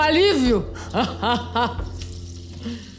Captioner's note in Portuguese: risada... maligna?